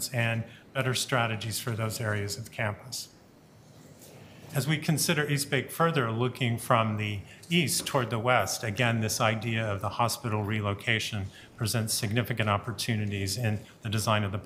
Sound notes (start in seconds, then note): none